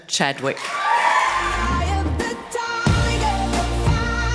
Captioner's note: audience cheers and applauds